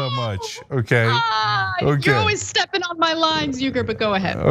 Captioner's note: laugh